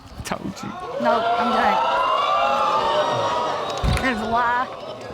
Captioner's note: audience exclaims